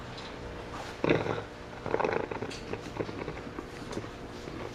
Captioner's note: ragged, Wet Breathing